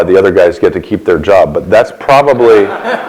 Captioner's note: laughter